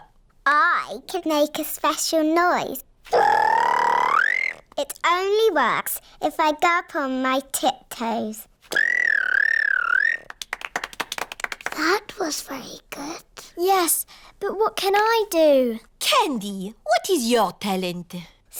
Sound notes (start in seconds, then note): 3.1 high-pitched whistle; 8.7 whistles